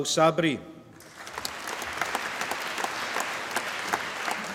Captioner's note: applause